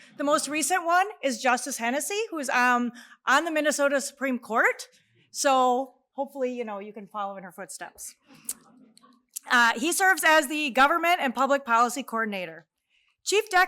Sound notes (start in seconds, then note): none